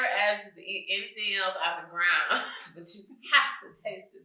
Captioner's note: chuckles